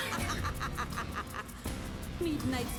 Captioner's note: scream; laughter